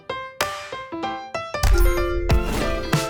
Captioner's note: dinging sound